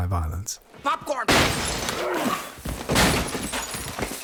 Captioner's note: smashing noises